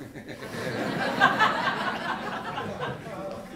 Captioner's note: laughter